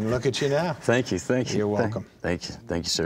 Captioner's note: laughing